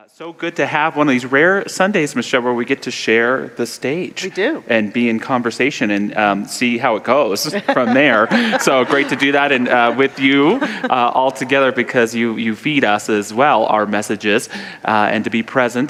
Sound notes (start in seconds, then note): 7.4 laughs; 7.5 audience laughter